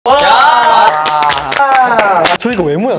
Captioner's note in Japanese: 拍手